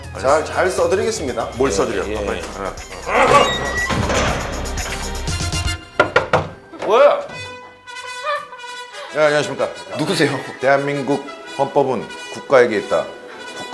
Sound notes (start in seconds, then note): 6.1 knock, knock, knock; 8.0 hahahaha